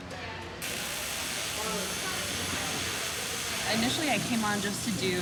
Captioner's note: electric buzzing